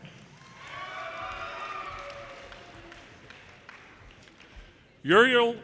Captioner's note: audience cheers and applause